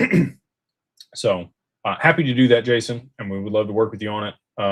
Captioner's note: clears throat